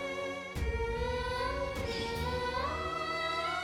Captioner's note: emotive vocalisation